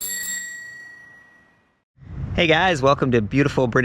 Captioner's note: bell chiming